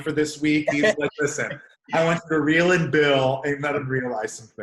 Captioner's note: murmurs